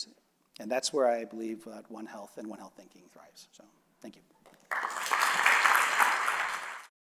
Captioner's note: applause